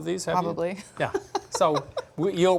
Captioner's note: laughs